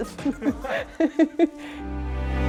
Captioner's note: laughter; dramatic music